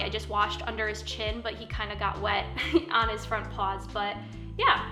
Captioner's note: chuckles